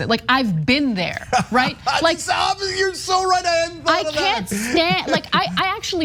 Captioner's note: laugh